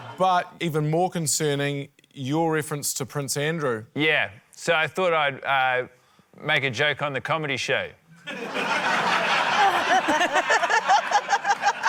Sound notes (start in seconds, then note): 0.0 laughter; 8.2 laughter